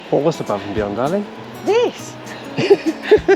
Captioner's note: laughs